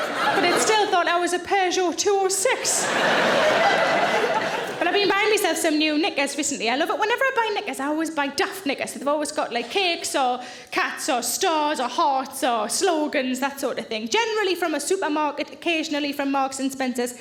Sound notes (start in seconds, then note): 2.5 audience laughing